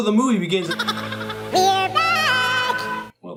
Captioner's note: Alvin cackles